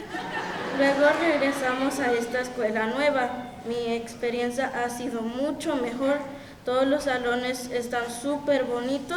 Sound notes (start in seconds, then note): 1.0 speaking in Spanish continues